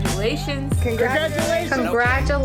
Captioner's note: crowd